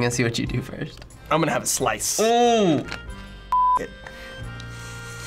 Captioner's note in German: Piep